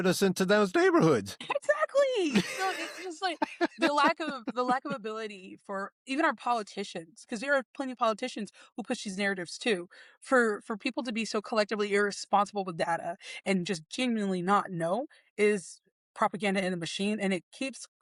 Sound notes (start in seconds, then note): 2.2 laughing